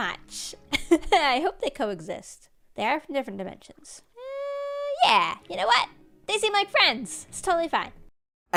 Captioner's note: laughs